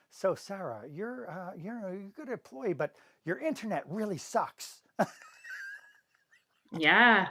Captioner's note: laughs